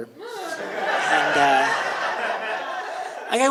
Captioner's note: audience laughing